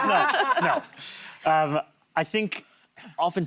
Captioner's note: laughter